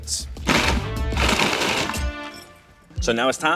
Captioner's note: food processor buzzing